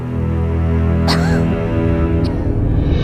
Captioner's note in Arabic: سعال